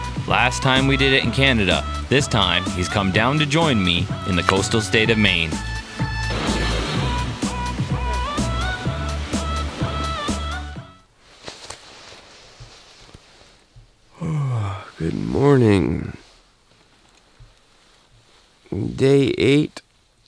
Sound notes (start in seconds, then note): 6.3 dance music; 14.0 yawns